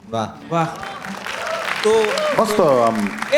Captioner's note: crowd applauding